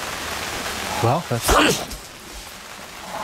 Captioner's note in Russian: зарычал